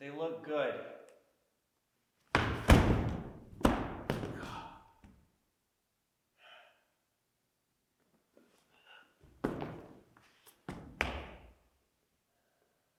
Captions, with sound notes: They look good. (body thudding) (Jacob groans)